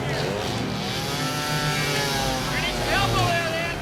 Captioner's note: power saw engine roaring